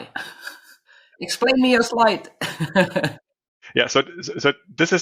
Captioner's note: laughs